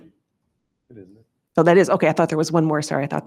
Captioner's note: speaks faintly